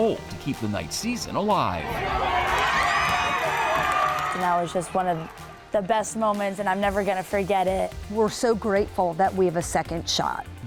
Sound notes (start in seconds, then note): 1.8 crowd cheering